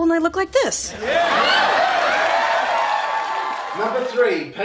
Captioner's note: audience applause